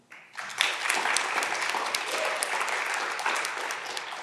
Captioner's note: audience clapping